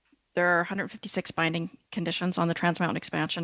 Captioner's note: speaking French